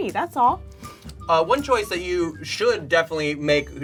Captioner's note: air whooshing